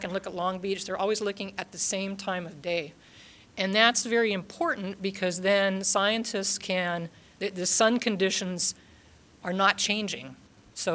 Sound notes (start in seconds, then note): none